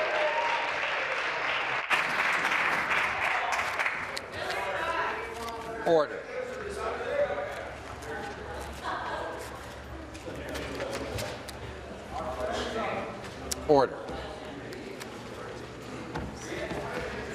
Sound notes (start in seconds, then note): 0.0 applause; 2.1 cheering